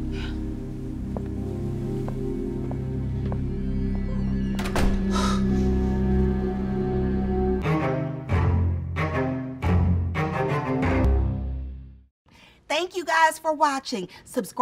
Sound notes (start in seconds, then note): 4.3 door closes